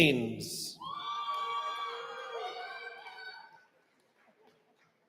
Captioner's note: cheering